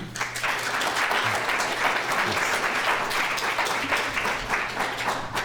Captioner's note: applause